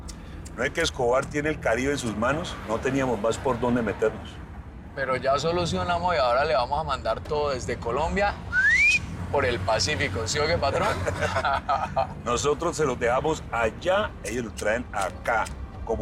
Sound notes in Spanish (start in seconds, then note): 8.5 Silbido; 10.7 Risas